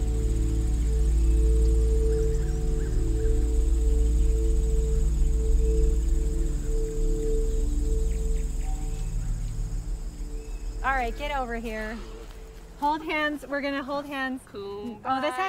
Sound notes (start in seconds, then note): 1.9 sounds of nature